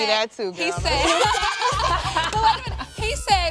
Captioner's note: laughter